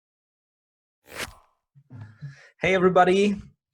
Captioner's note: whooshing